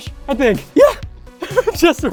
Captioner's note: laughs